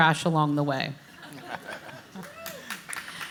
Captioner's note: panelists laugh